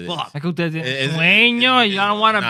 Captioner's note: non-english Speech